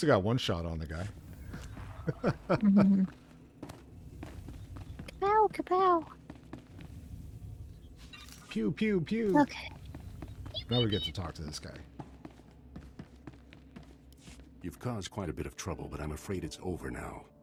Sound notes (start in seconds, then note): 1.8 laughing